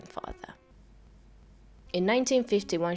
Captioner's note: loud silence